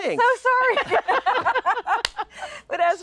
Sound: laughing

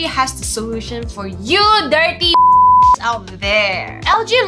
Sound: beep

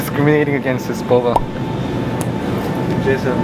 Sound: pop

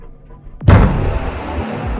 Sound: thud again

